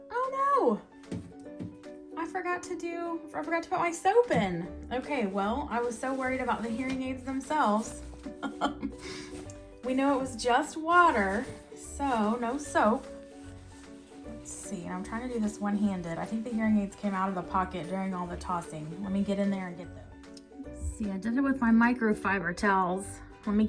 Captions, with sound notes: Oh no, I forgot to put my soap in. Well, I was so worried about the hearing aids themselves. (laughs) We know it was just water, so, no soap. Let's see, I'm trying to do this one handed. I think the hearing aids came out of the pocket during all the tossing, let me get in there and get them. Let's see, I did it with my micro fiber towels.